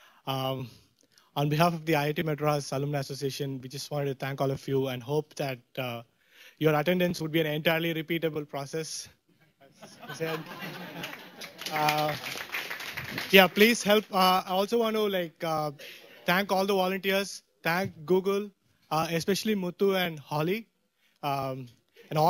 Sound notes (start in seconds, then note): 9.4 laughter; 10.4 applause